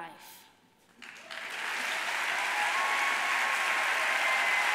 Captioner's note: audience applauding